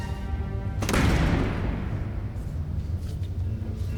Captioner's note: door slamming shut